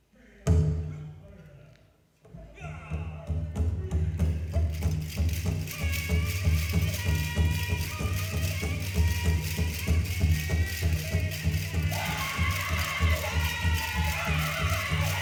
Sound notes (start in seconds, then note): 2.7 dress clattering; 2.7 drum beating; 2.7 women chanting